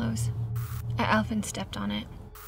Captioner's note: static crackles